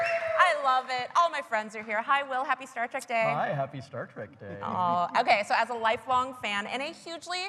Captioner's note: applause